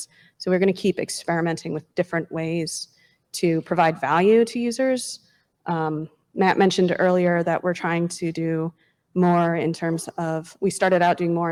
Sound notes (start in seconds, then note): none